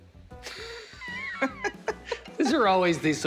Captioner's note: laughter